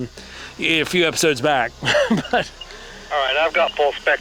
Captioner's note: laughs